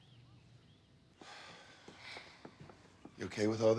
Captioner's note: both sigh